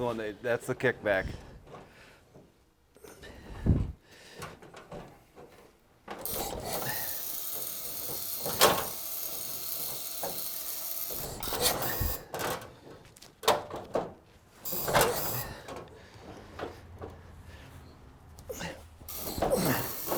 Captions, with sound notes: - That's the one. That's the kickback. (machine buzzes) (objects clank)